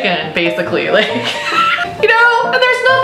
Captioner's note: she laughs